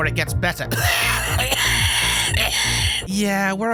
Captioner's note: violent coughing from terrible virus